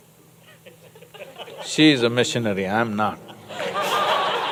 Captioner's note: laughter